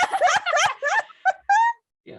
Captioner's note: laughter